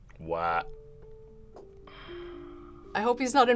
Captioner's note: sighs